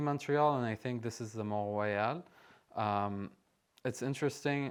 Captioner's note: speaking french